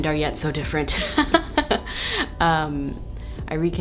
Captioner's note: laughs